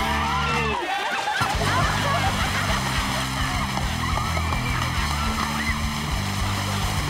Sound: everyone laughing; upbeat music

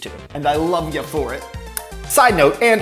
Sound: lips smack

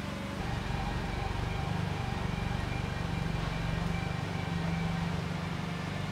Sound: motor humming, faint upbeat music

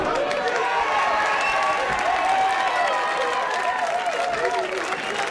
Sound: crowd cheering and clapping

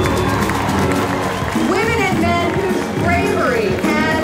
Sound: cheering

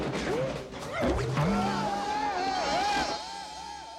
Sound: both Yelling

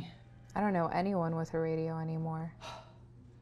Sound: sigh

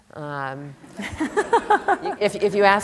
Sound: laughter

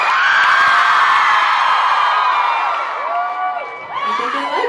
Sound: audience cheers

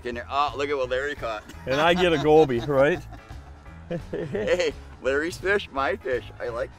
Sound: laughing

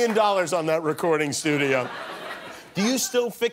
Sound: laughter

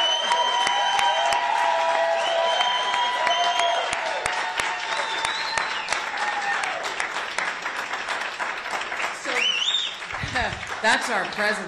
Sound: applause

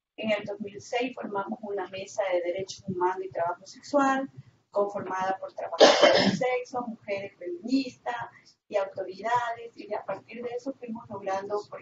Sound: Spanish

